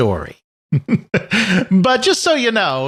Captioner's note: chuckles